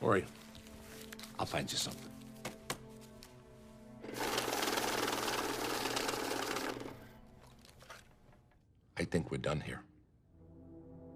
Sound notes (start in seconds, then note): 4.1 machine shuffling; 10.2 solemn music